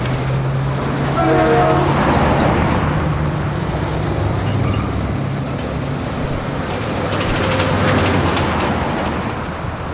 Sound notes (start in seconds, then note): 0.6 loud traffic